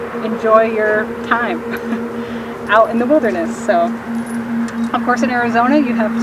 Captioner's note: laughing